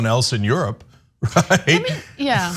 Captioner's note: laugh